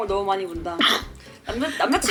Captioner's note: achoo